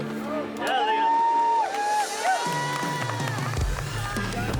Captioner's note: all cheer; tense drum music continues